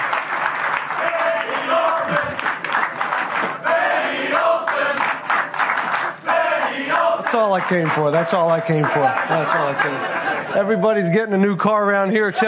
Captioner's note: applause